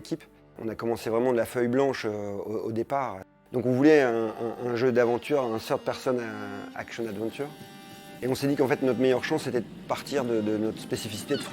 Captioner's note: foreign language spoken